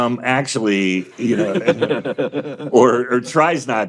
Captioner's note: all laughing